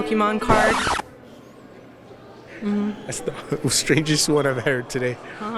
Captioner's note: record Scratch